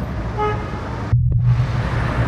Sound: ambient street sounds; car horn

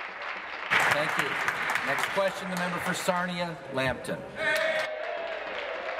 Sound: applause

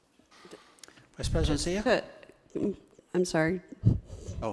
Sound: mumbles

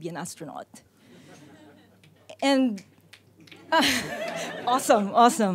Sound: and audience laughs

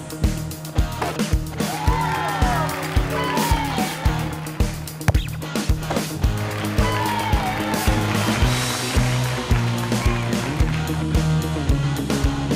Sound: cheers and applause

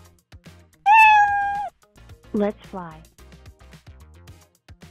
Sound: meow

